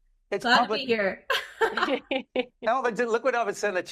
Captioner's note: laughing